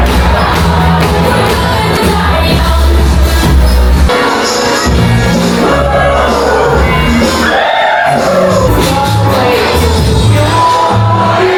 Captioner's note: crowd Cheering; upbeat Music